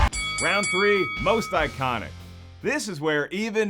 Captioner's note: bell dinging